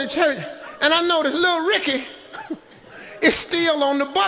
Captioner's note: chuckles